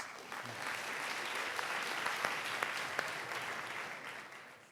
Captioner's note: audience applauding